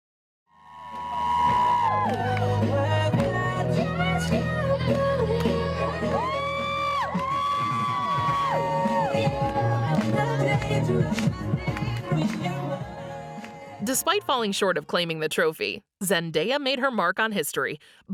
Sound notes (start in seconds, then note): 2.7 background music; 2.7 crowds cheering